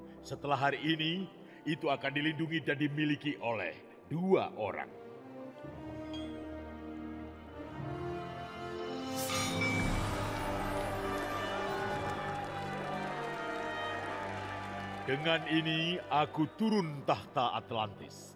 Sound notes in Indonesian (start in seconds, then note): 10.2 kerumunan terkejut